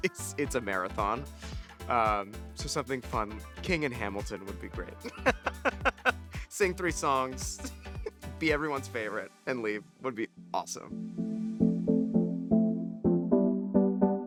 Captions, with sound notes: it's a marathon, so something fun. King in Hamilton would be great. (chuckles) Sing three songs, be everyone's favorite and leave would be awesome. (lively music)